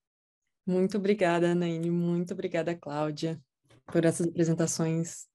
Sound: speaking in Portuguese

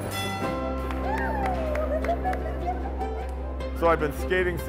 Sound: laughs

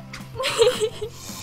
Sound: giggles

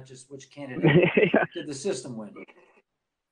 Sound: laughing

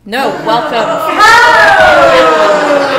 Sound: laughter

